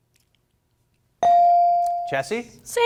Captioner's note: bell rings